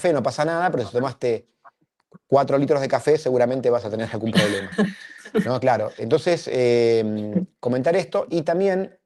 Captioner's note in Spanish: risas